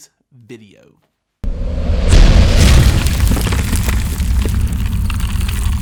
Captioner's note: cement crumbling